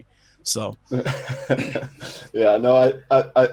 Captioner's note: laughing